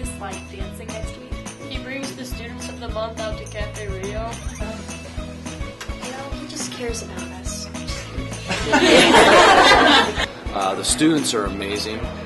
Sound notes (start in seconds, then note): 8.0 laughing